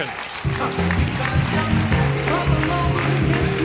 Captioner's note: applause